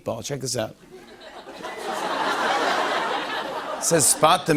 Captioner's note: laughter